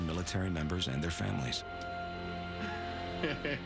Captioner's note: laughs